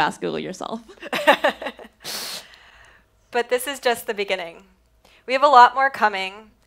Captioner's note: laughs